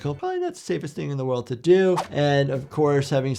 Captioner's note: audio whooshes; soft upbeat music plays